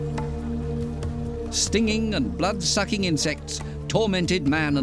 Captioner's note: mosquitoes buzzing